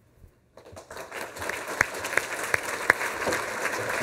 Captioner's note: applause